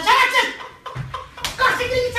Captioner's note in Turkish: şaplak